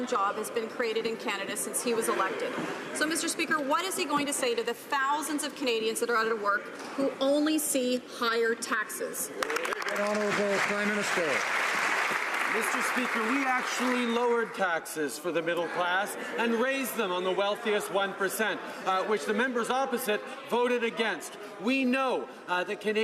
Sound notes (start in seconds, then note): 12.3 some Applause